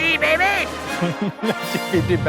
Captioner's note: laughs